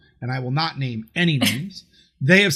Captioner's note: laughs